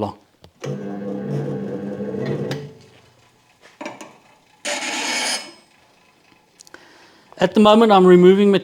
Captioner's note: grinding Noise